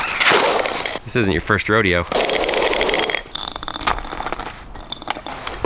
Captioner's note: hose scraping